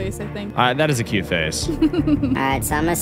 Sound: giggles

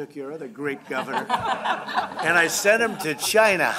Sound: laughter

